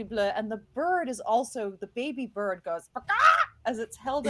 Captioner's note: squawking